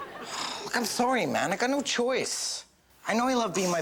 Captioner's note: audience laughs; sighs